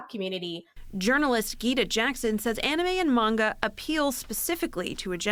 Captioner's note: voice-over